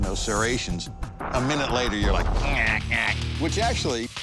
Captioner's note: imitates grinding